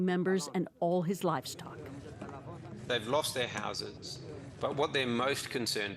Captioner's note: speaking alternate language